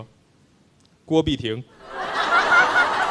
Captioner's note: Sound like Beahayden Kuo